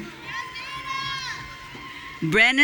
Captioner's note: audience cheering